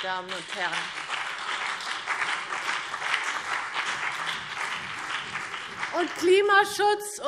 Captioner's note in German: Beifall BÜNDNIS 90/DIE GRÜNEN und vereinzelt CDU